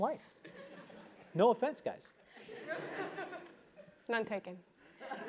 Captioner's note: laugh